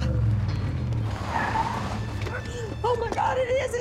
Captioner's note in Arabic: اصرير الاطارات